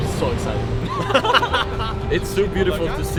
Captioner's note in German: Gelächter